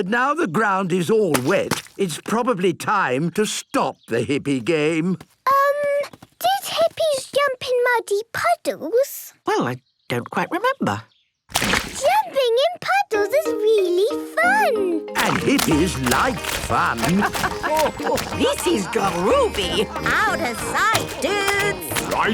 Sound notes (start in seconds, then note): 17.6 laughing